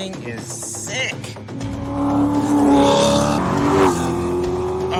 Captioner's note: engine rumbling